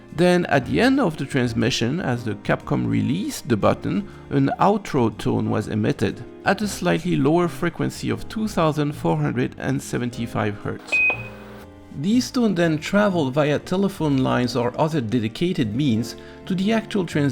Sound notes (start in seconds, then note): 10.8 lower beep